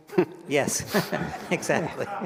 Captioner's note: all laugh